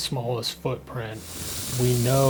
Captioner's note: water sounds